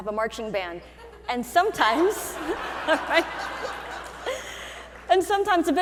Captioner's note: audience laughing